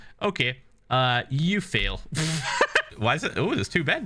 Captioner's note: laughs